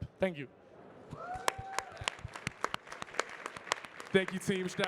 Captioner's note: audience cheering and clapping